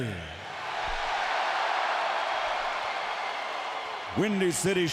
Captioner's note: audience cheering